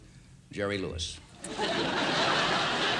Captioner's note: laughter